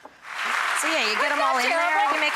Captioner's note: audience applauds